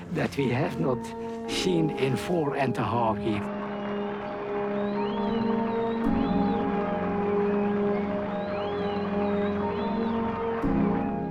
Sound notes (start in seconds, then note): 5.5 cheering